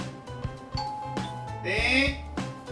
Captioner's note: the doorbell I've been waiting for 🔔